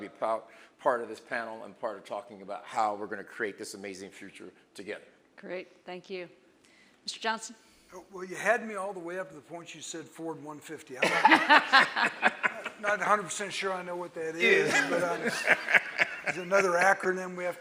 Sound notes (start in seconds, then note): 11.0 all laughing